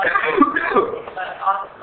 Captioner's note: coughing